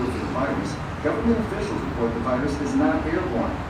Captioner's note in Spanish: Televisor sonando